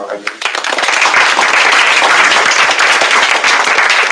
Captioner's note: applause